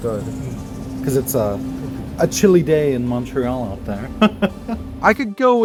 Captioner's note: laughter